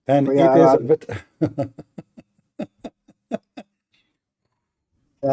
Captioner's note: Ketawa